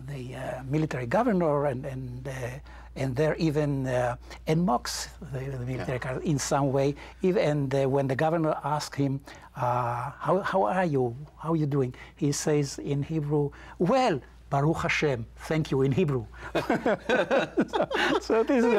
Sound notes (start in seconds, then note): 14.8 in Hebrew; 16.4 both laughing